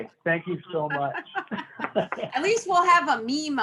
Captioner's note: both laughing